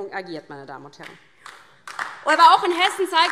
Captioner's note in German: Beifall